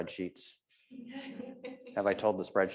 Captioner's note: audience laughs